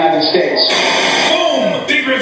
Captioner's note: TV Static